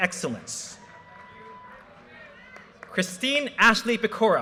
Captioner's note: audience cheers and applause